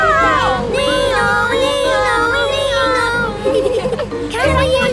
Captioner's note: Freddy imitates the siren